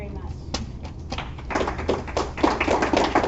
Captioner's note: applause